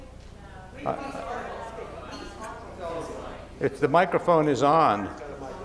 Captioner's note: audience chatter